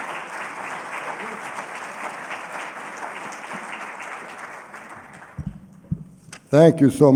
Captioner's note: applause